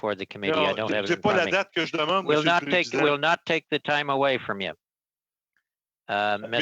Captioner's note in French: voix de l'interprète